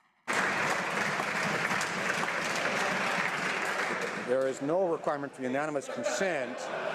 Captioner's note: applause